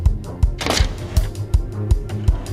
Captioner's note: lock snapping